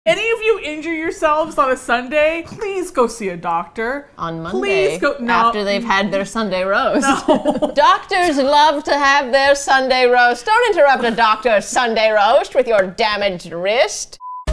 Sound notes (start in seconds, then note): 7.0 both laugh